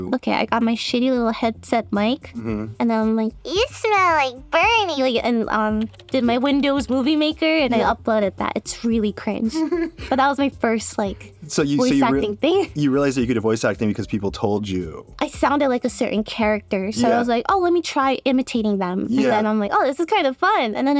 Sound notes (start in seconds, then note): 9.4 laughs